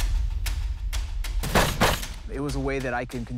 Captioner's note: gun shots